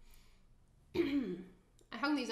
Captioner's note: clears throat